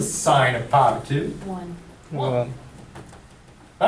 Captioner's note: voiceover